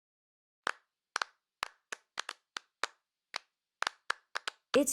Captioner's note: clapping hands